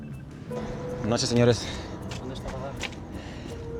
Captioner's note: speaking spanish